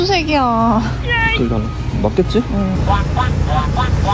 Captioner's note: laughs